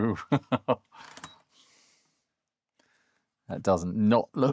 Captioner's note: laughs